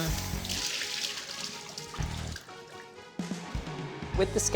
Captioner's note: water splashes